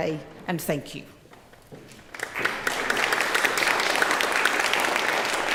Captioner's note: applause